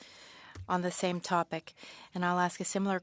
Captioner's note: speaking French